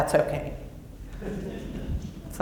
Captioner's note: laughter